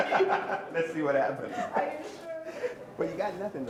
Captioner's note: both laughing